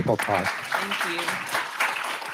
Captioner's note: audience clapping loudly